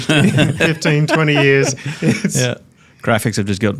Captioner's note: chuckles